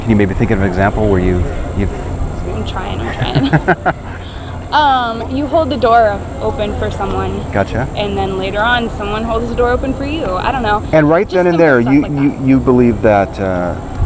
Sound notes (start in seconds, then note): 3.0 laughing